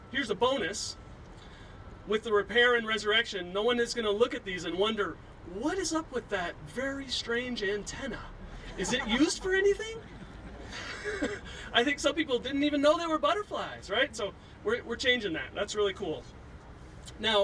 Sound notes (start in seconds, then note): 8.6 laughing; 11.0 laughs